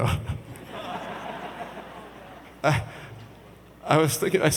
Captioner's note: audience laughs